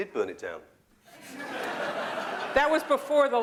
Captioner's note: laughter